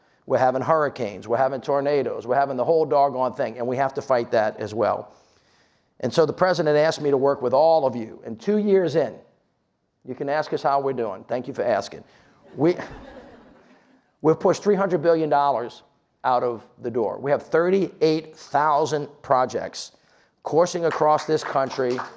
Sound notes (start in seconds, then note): 12.5 audience laughs; 20.8 audience clapping